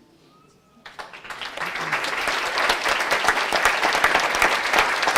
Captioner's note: applause